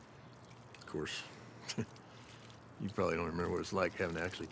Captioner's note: scoffs